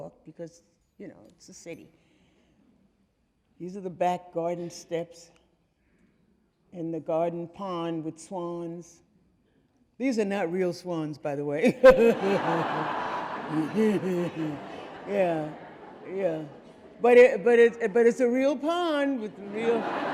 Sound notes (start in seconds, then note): 11.6 laughs; 11.6 audience laughing